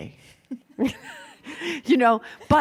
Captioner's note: laughing